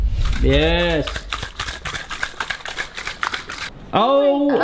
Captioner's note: egg shells cracking